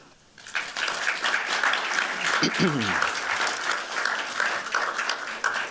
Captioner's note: applause